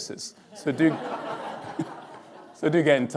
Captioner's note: audience laughing